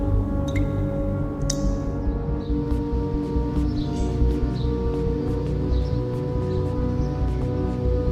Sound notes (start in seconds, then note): 1.5 birds chirping; 2.2 dark music continues